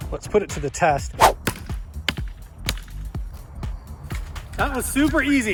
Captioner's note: ax chopping